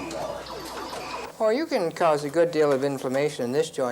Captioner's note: electronic beeping